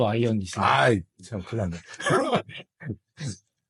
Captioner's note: laughs